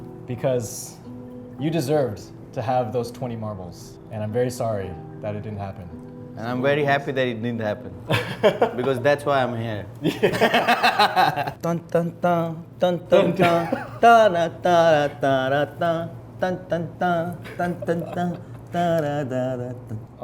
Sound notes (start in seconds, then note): 10.0 both laughing; 11.5 humming music